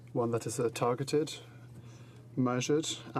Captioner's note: speaking French